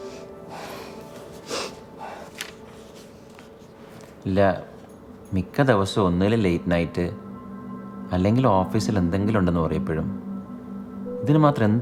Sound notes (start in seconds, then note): 0.0 Sofia sniffles; 0.0 Sofia sighs